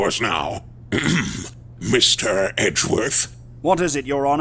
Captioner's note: ahem!